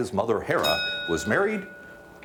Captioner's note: bell dings